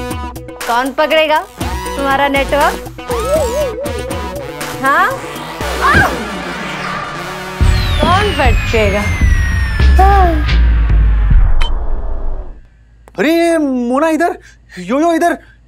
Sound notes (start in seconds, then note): 5.7 Grunts